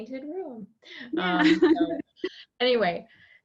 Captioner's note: laughing